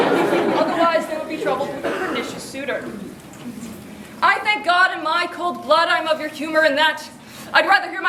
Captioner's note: everyone ooos and laughs